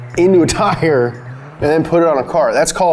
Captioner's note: chuckling